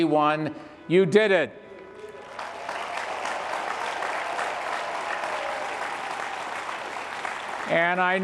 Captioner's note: graduates and participants cheer and applaud